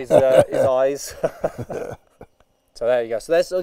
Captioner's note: laughs